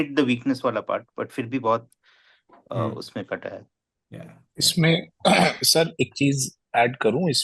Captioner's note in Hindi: गला साफ़ करने की आवाज़